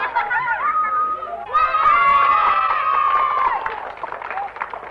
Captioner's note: cheering